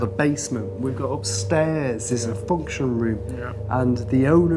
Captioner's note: none